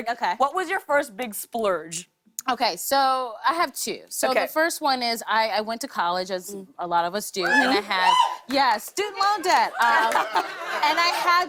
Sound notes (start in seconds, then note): 7.4 cheers; 9.3 laughter